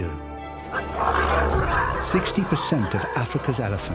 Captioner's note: grunting